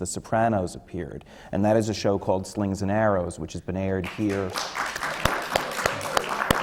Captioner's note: applause